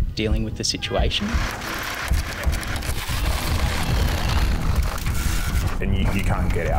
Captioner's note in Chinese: 切割的声音